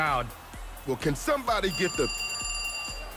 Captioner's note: phone rings